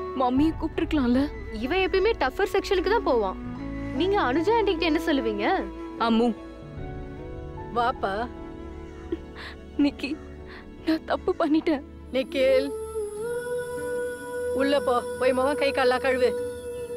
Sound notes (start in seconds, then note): none